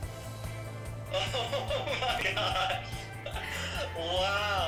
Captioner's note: laughing